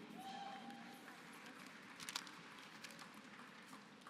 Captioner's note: applause